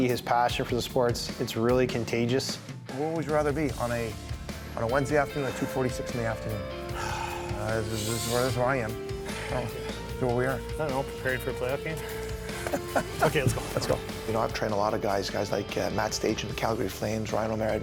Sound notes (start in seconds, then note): 7.0 murmurs; 12.1 laughs